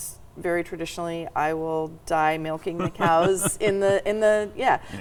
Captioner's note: chuckling